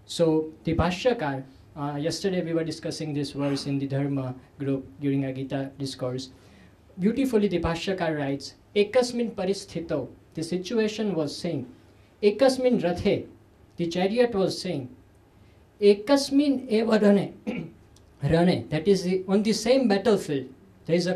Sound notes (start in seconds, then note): 9.4 sanskrit; 12.2 sanskrit